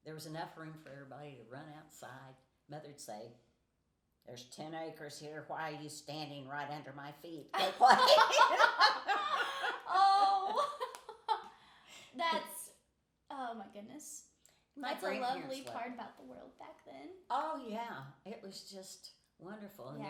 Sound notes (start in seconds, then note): 7.5 laughing